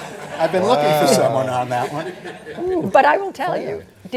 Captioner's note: laughter; laughter